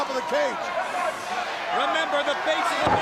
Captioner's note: crowd chatter